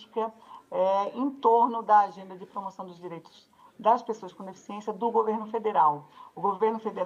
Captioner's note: speaks Portuguese